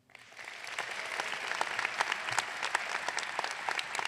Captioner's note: audience clapping